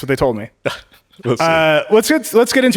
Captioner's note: Min chuckling